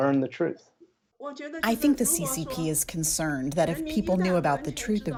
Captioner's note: through translator